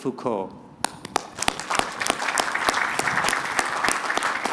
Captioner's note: applause